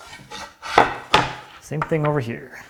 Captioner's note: plank on desk clunking